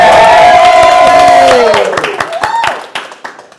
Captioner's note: cheers and applause